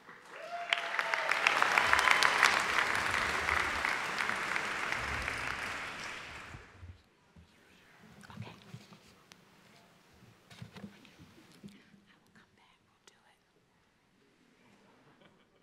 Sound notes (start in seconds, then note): 4.7 applause